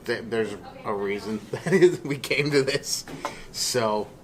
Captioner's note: laughs